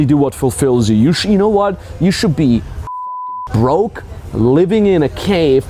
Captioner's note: beeping